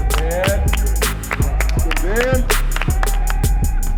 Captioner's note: cheering